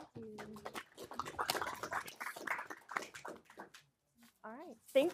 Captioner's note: audience clapping